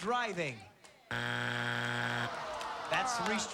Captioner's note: buzzer